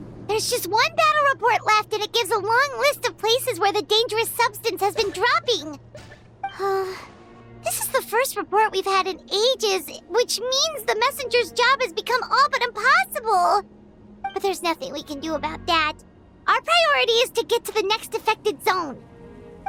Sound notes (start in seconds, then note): 6.6 sigh